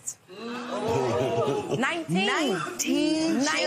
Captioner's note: audience groans